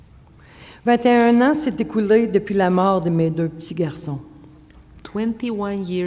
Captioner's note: speaking French